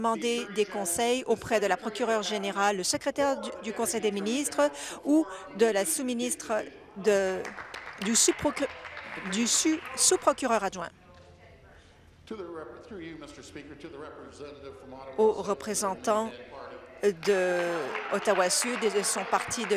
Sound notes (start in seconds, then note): 10.0 applause